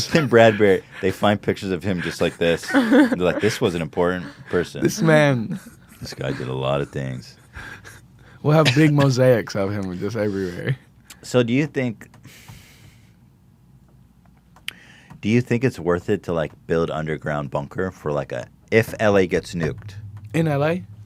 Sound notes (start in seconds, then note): 2.9 laughs